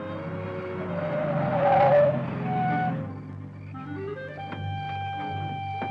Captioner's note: brakes squealing; dramatic music